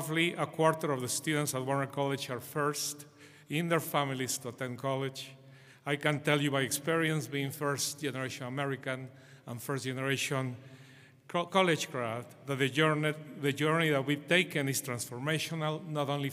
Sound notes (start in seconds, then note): none